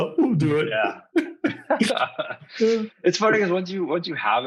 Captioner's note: all laughing